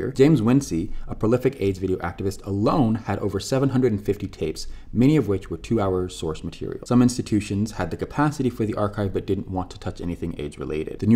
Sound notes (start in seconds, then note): none